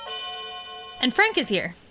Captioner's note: doorbell rings